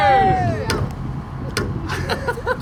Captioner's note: bottle thunks; groups laughs